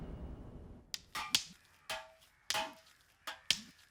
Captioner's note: suspenseful music; clanging